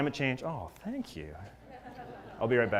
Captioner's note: laugh